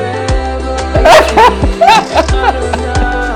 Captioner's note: laughter